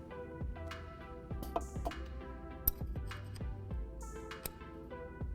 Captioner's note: metallic clinking